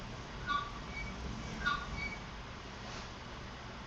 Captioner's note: metal creaking